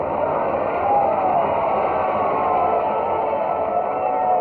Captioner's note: all cheering